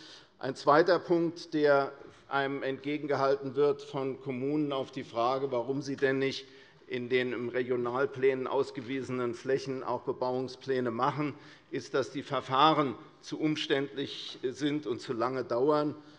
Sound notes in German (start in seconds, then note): none